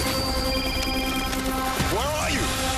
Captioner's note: cell phone rings